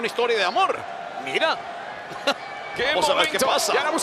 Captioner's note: laugh